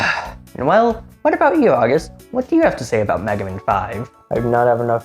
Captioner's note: sigh